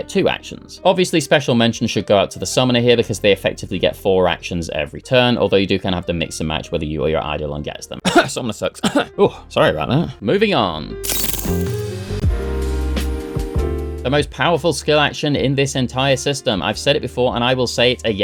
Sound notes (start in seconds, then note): 8.0 cough